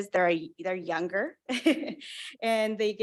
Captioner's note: chuckles